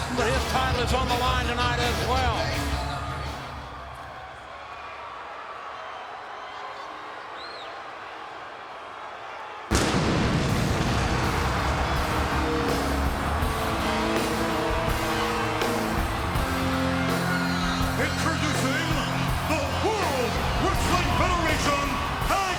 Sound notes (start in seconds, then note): 5.1 audience cheers; 9.7 pyro bangs; 11.2 ominous music; 12.5 audience cheers